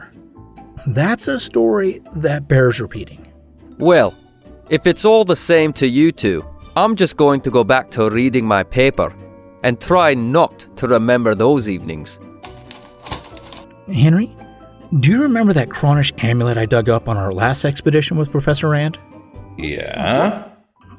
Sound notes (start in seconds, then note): 12.4 paper rustling; 19.3 ape noises